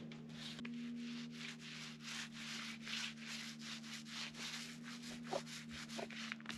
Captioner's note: paper rustling